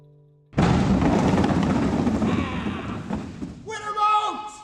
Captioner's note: tumbling